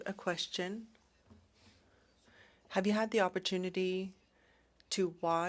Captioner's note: speaking French